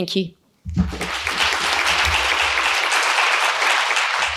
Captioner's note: crowd clapping